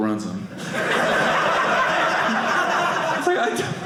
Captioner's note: audience laughing